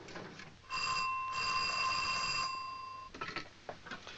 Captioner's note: telephone rings